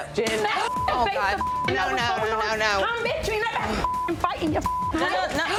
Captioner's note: beep; women chattering